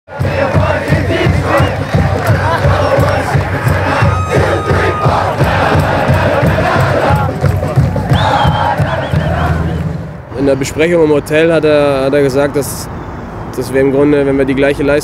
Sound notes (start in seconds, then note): 0.1 fan chants; 0.1 drumming